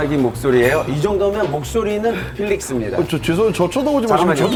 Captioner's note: quintessential deep voice